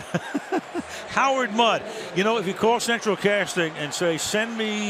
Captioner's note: laughs